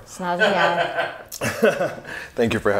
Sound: laughing

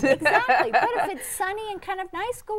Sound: laughing

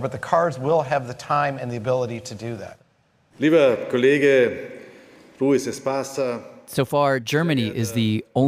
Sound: speaking German

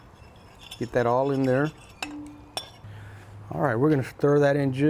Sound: water sloshing; spoon rasping

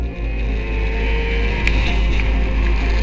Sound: motorcycles whirring

